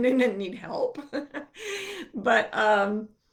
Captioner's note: laughing